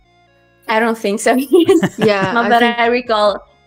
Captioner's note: laughs